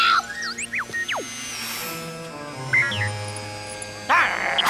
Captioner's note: drone beeping; barking